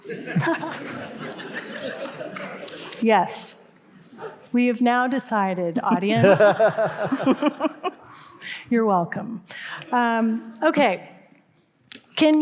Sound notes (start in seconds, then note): 0.0 audience laughing; 5.8 all laughing